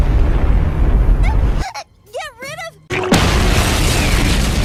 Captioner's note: explosion